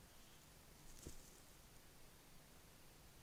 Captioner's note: kākāpō footstep